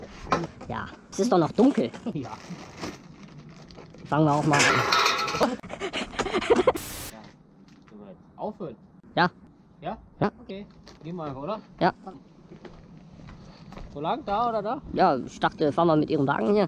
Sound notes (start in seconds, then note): 4.4 crash; 5.4 laughter